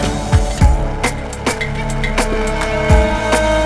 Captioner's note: Everyone clapping